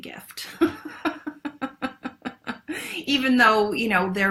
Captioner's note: laughs